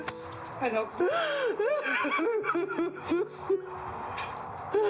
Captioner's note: sobbing